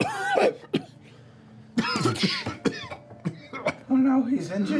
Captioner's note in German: hustet